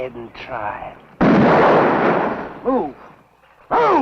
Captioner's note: gun firing